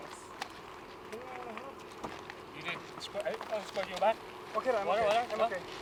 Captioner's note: speaking in foreign language